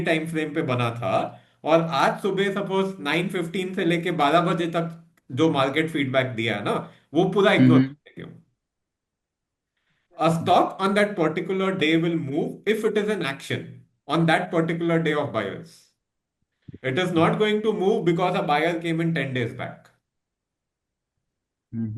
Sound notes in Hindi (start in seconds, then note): 7.6 गला साफ़ करने की आवाज़